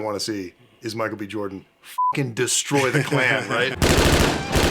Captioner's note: beeping